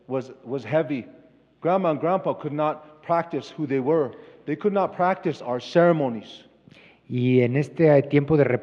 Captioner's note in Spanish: Expositor habla en inglés